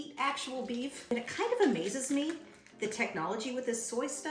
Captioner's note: wrapper crinkles